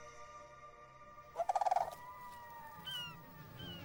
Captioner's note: birds calling